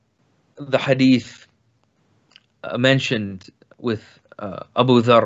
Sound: speaks in foreign language

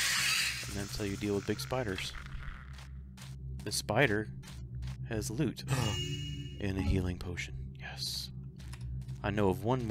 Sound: gasps

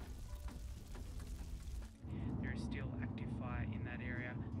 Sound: fire roaring

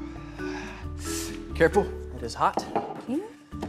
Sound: hissing

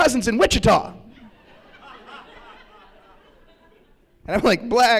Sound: laughter

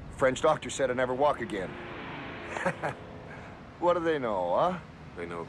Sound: laughs

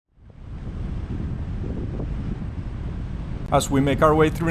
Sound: wind whooshing

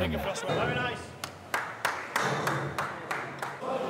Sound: applause

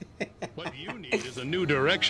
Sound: laughs

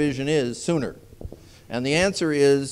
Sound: none

